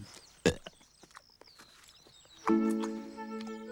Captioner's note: burps